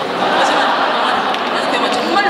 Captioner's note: speaking Korean; audience laughing